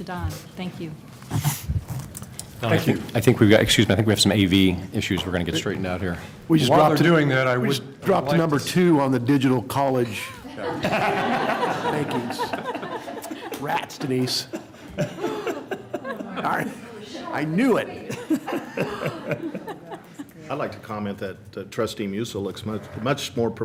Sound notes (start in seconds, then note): 17.9 laughter